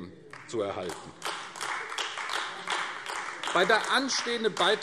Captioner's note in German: Beifall AfD